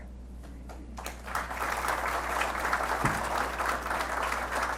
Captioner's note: attendees applauding